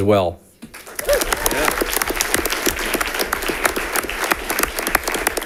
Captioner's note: audience applauding